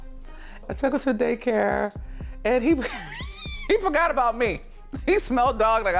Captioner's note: laughs